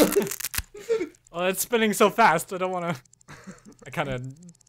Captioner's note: ripping noise; A whirring sounds begins